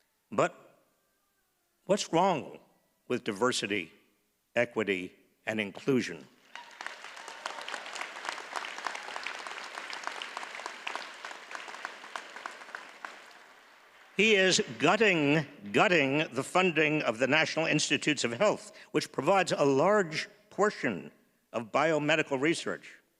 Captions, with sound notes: but what's wrong with diversity, equity, and inclusion? (audience cheers and applauds) He is gutting, gutting the funding of the National Institutes of Health, which provides a large portion of biomedical research